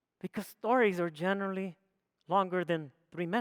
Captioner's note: none